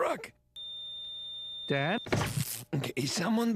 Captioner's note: flat tone